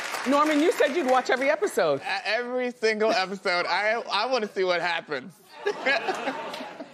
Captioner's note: applause